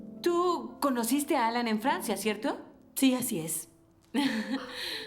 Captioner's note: none